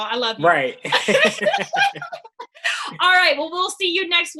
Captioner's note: both laugh